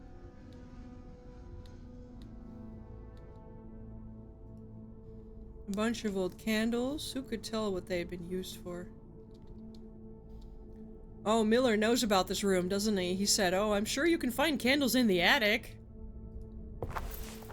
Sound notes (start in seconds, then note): none